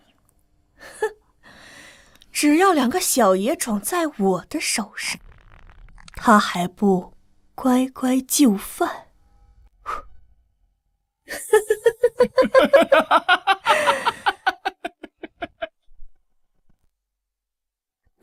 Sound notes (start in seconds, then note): 11.3 sinister laughter